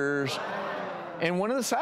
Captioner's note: crowd groans